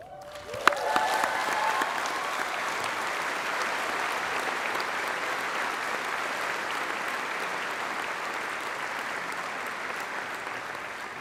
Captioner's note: applause